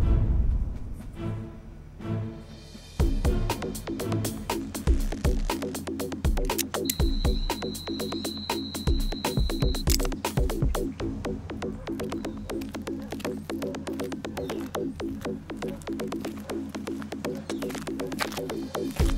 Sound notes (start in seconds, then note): 0.9 suspenseful music; 12.8 dogs barking